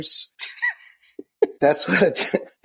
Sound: laughs

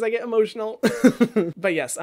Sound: laughs

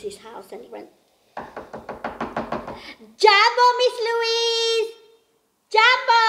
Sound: knocks

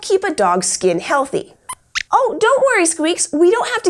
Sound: squeaks squeaks worriedly

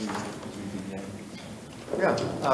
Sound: faintly speaking

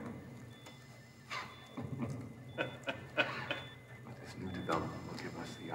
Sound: Miller laughs

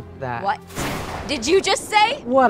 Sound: thunderbolt

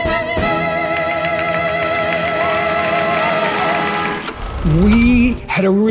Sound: audience applauding

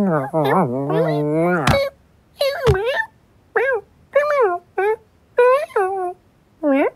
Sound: kitten chattering

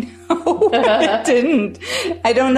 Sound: laughs

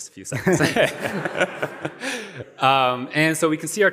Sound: laughter

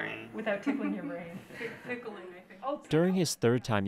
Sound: laughter; laughter and joking

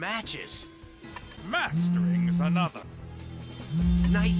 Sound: buzz

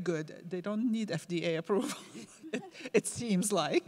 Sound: laughs

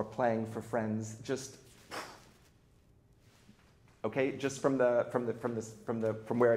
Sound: blows air

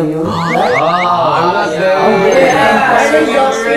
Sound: all laughing

